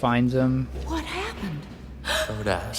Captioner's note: gasp